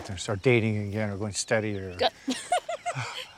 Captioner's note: laughs